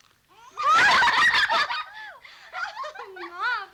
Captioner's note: all laughing